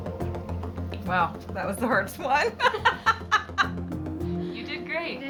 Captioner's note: laughs